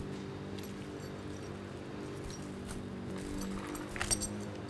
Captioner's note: thumping; chain rattling